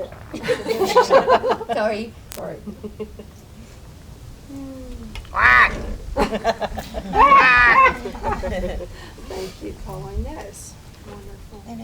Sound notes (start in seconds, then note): 0.3 laughter; 5.1 bird noise; 6.1 laughter